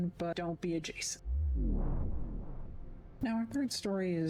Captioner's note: vwoom